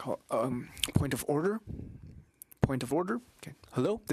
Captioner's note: speaking French